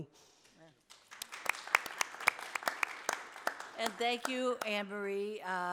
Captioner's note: audience applauding